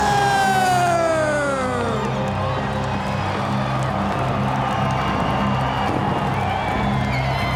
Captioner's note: crowd cheering; dramatic orchestral music